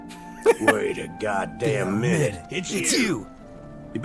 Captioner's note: cackle